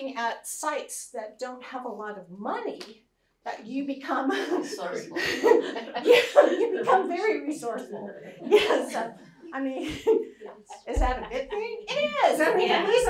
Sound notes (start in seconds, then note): 5.8 laughs